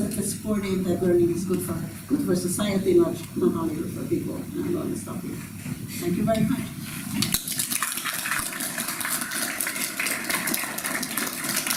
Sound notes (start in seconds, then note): 7.2 applause